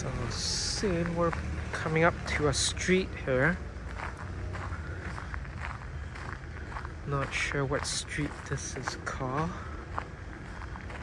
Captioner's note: walking on gravel